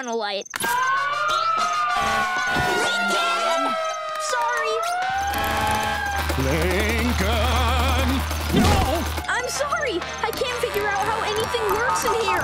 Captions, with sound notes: [sirens blaring] Lincoln! Sorry! [vibrating] Lincoln! - Oh! - I'm sorry! I can't figure out how anything works in here!